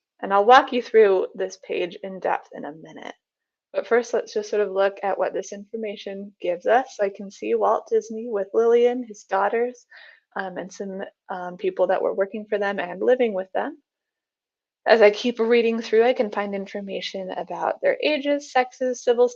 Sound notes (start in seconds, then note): none